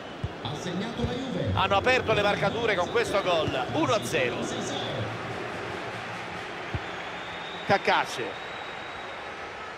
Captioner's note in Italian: Applauso